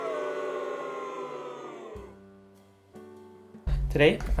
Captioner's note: enthusiastic booing